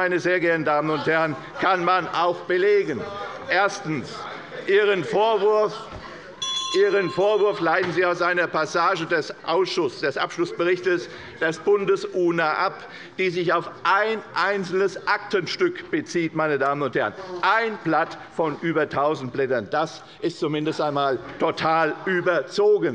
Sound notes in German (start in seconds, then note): 3.3 Unruhe - Glockenzeichen des Präsidenten